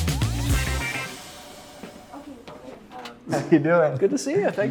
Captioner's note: phones ringing; talking in background